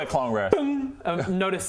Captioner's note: bing